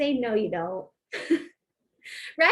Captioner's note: laughter